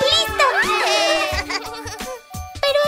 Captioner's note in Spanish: Risas Festejos